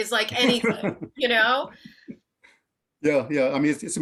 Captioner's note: laughs